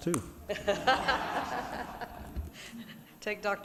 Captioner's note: audience laughing